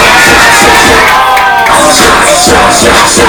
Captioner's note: cheering